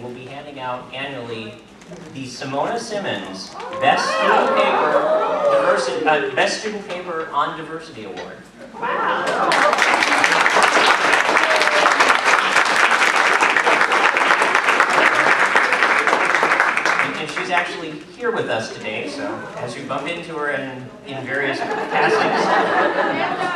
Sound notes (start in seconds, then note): 9.3 applause